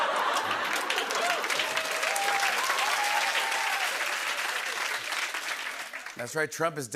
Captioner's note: cheers and applause